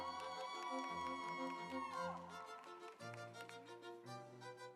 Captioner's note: audience applauds